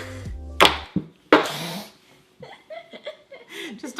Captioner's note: brush banging; laughs